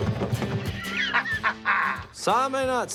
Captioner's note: laughs